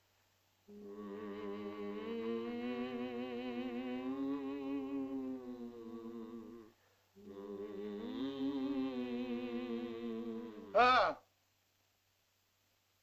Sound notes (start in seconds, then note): 0.7 Loana and caveman hum; 10.8 Tumak grunts